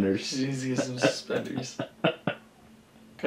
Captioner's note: laughs